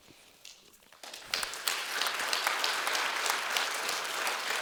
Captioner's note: applause